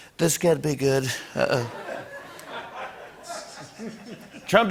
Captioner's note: laughter